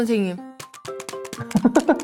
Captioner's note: applause